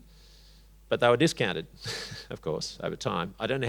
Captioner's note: chuckles